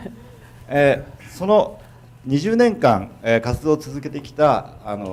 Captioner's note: speaking foreign language